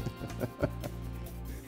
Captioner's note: laughing; upbeat music